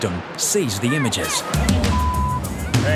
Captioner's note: beep